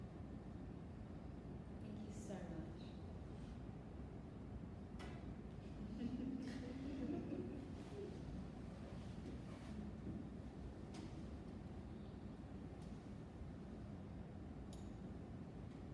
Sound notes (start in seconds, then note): 6.0 audience laughs